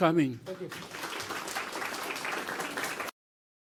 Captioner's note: applause